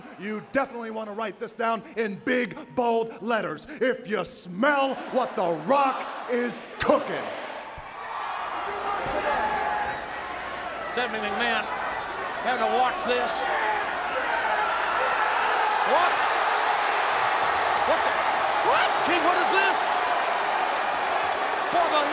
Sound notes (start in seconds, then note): 7.5 audience cheering; 9.2 audience chattering